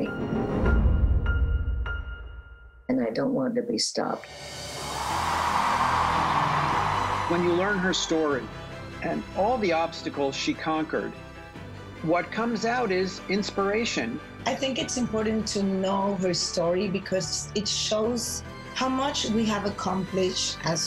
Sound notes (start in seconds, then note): 0.0 dramatic music; 4.7 crowd cheering